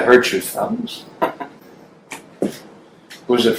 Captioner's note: Mike chuckles